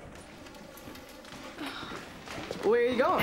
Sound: Cody sighing

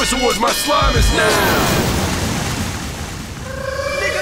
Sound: slime splashing; slime whooshing

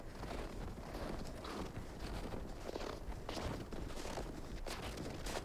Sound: boots crunch in the snow

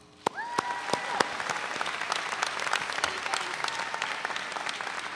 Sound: audience cheering

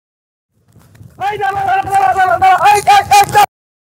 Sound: shouting

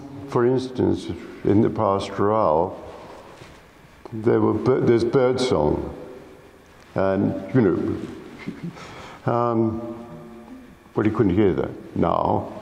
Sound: whistles

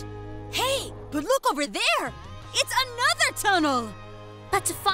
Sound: none

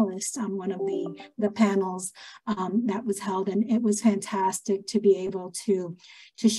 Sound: an electronic tone

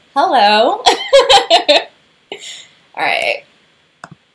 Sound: laughter

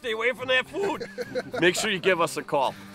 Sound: laughing

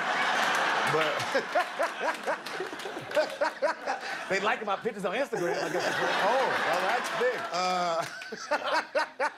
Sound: laughter

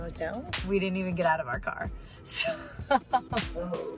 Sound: laughs

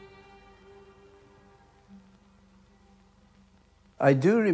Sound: vinyl crackling

